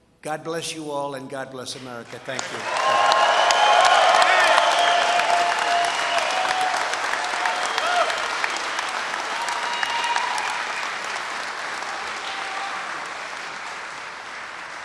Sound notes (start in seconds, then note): 4.1 applause